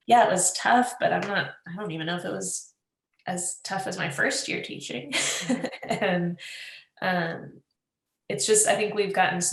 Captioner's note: laughs